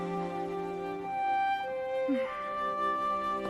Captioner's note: sighing